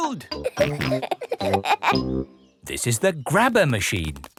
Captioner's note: peppa and george laughing